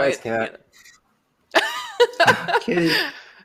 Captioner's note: laughter